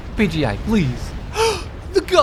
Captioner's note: gasp